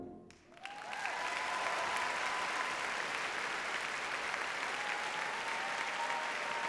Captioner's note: audience cheers and applauds